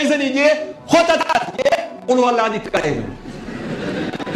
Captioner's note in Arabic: ضحك